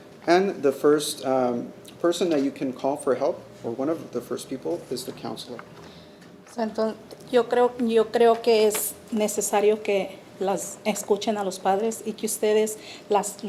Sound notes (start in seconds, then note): 7.0 speaking Spanish